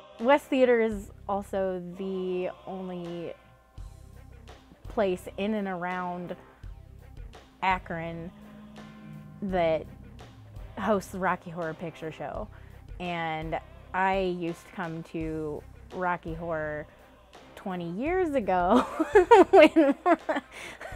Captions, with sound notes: - This theater is also the only place in and around Akron that hosts the Rocky Horror Picture Show. And I used to come to Rocky Horror 20 years ago (laughs),